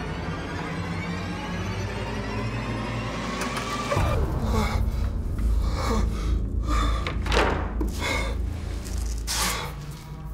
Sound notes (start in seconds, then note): 5.4 gasping